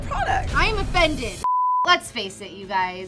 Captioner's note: beeping